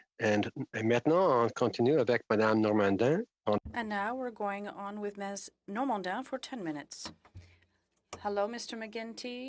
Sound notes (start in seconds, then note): 4.4 speaking French